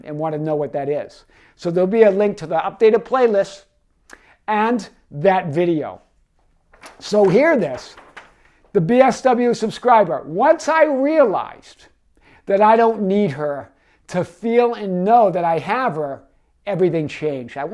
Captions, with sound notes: and wanna know what that is. So there'll be a link to the updated playlist and that video. So hear this, (paper rustles) the "BSW" subscriber. "Once I realized that I don't need her "to feel and know that I have her, everything changed."